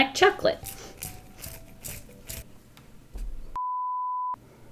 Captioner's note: sharpening